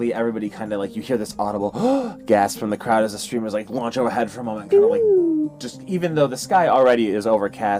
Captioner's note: gasp